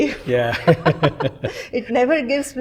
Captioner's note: laughter